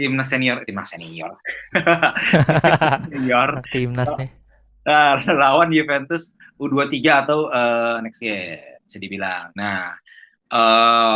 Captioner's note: laughs